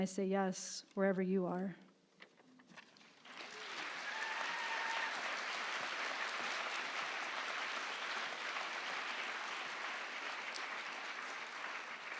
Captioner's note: applause